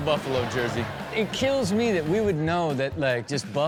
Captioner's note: audience laughs